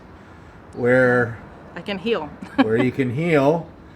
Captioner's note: chuckles